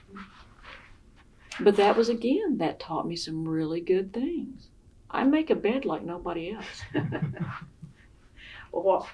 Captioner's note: laughter